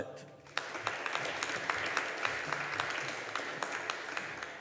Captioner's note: audience applauding